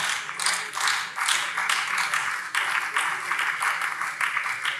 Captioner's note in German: Beifall Freie Demokraten und BÜNDNIS 90/DIE GRÜNEN